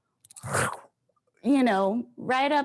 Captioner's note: chomps